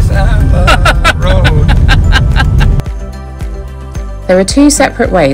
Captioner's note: laughing